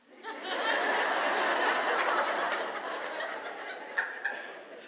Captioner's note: audience laughing